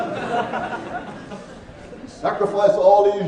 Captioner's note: laughing